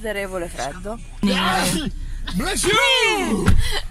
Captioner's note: sneezing